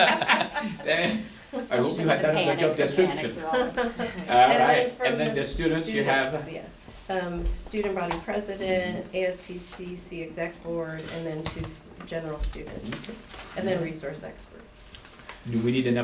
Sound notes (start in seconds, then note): 3.5 laughter